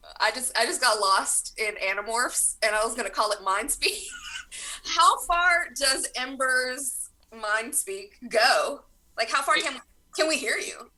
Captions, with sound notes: I just, I just got lost in Animorphs and I was going to call it Mind Speak. [laughs] How far does Ember's mind-speak go? Like how far can... can we hear you?